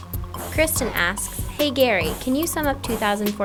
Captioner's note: voiceover